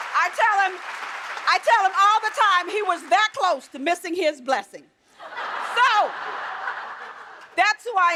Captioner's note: applause